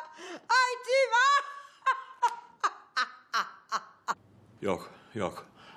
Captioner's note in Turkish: Gülme sesi